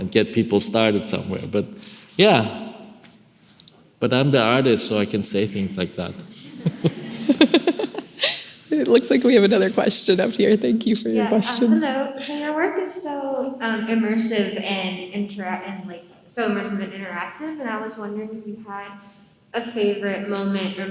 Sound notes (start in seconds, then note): 6.0 laughing